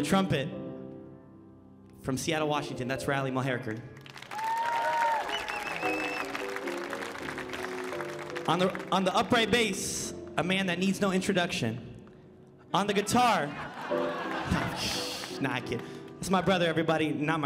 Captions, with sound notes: On the trumpet, from Seattle, Washington, that's Riley Mulherkar. [audience cheering] On the upright bass, a man that needs no introduction. On the guitar... [audience laughing] Nah, I kid. It's my brother, everybody.